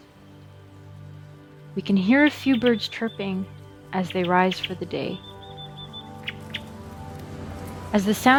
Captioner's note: sounds of birds, wind and traffic